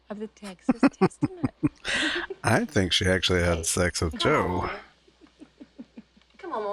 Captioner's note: chuckling